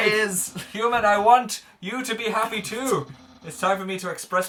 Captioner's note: laughs quietly